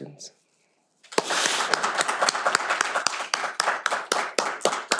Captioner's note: all applaud